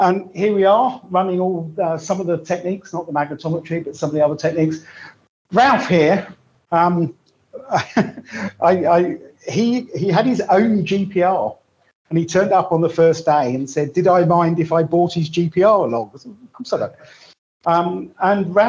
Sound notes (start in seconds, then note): 7.5 chuckles